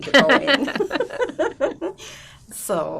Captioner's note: laughing